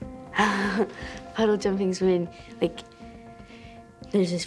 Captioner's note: laughs